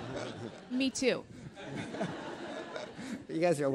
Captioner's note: attendees laughing